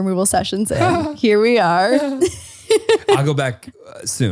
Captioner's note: laughs